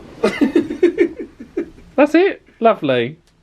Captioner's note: laughs